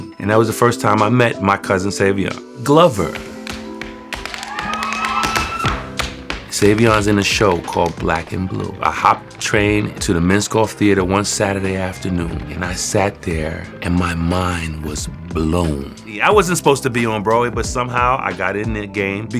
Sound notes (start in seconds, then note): 4.3 cheering